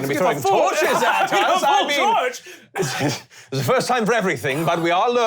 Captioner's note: both yelling at each other